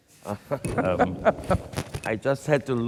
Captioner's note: laughs